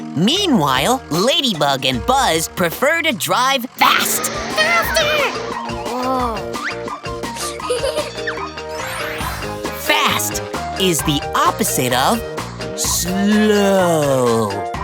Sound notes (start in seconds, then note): 7.4 giggling